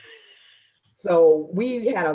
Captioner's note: laughing